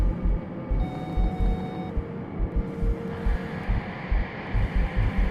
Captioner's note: soft beeping